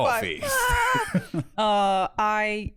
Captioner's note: fearful wailing